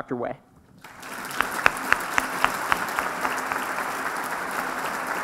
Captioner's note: applause